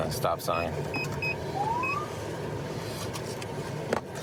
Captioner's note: siren chirps